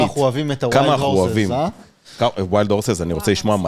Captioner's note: none